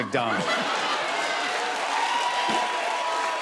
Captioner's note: laughter, cheers and applause